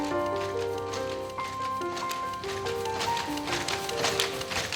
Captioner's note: steady clatter of a loom